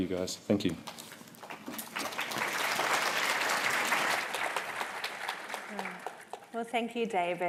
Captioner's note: applause